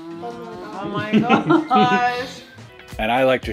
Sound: laughing

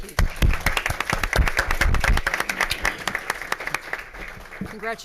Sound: crowd applauds

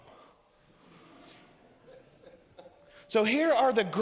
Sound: congregation laughs

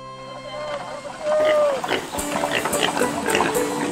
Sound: oinking

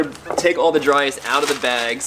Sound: bag crunching

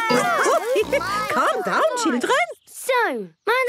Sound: laughing

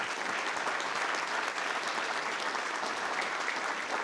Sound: audience clapping

